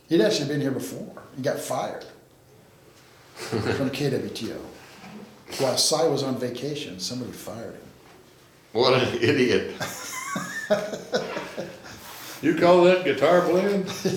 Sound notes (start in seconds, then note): 3.4 laughs; 9.0 laughs; 13.8 laughs